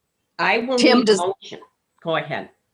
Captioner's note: recording cuts out